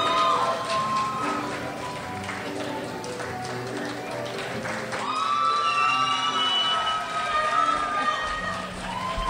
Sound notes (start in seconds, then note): 2.1 crowd shouts; 5.5 crowd cheers